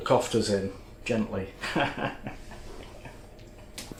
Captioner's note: laffs